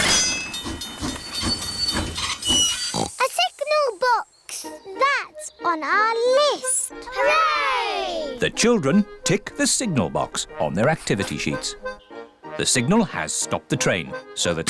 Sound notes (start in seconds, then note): 0.0 tinging; 2.6 oinks